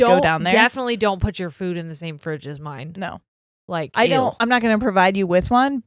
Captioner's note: none